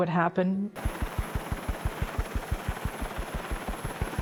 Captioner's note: helicopter blades whirling